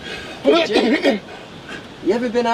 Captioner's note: both laughing; Jake coughing